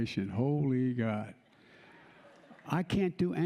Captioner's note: laughter